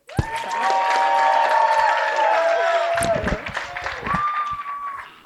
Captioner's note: cheering and applause